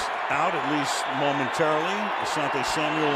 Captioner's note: whistles